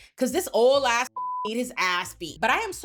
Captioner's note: beep